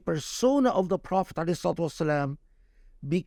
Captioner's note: speaking Arabic